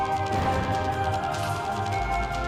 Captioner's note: gunshot